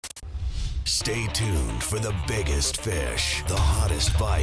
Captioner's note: voiceover